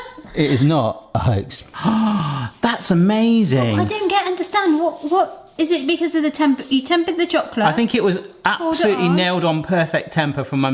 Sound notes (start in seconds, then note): 1.7 gasps